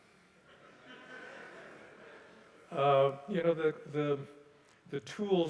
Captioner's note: audience laughing softly